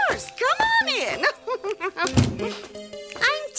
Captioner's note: laughing